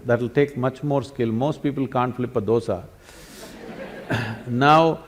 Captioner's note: laughter